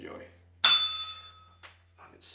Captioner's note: bell rings